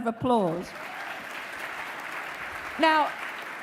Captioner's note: audience applauds